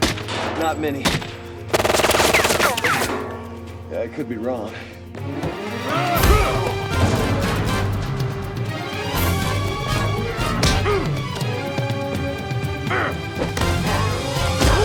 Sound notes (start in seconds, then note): 1.6 guns firing; 5.1 dramatic music; 5.1 grunting